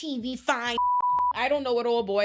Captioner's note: beep